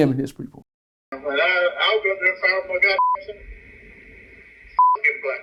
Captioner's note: beep; beep